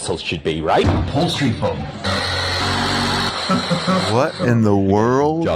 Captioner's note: cutter whirring